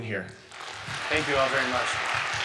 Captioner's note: audience applauding